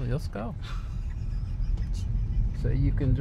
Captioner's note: laughs